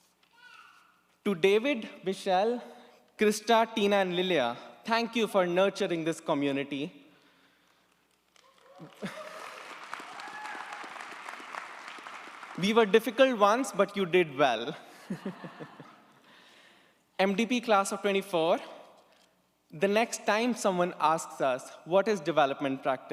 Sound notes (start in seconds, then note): 8.3 audience applauds; 15.0 chuckles